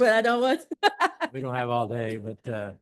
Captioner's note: laughter